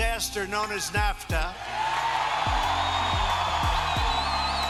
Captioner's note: audience cheers